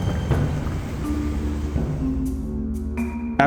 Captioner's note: air whooshing